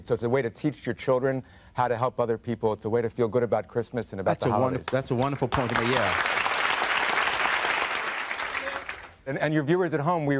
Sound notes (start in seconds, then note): 5.1 audience applauding